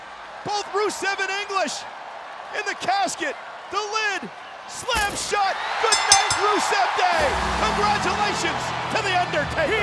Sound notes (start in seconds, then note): 5.8 bell dings